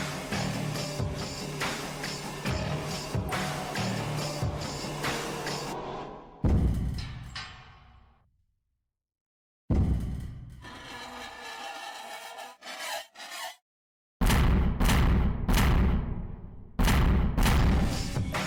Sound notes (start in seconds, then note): 6.8 metal bang; 10.6 metal bang, metal scraping; 14.0 metal banging